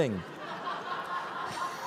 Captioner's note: laughter